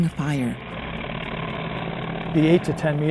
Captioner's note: plane engine roaring